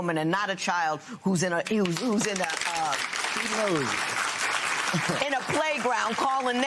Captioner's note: applause